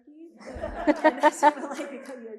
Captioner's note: all laughing